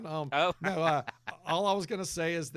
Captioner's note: laughing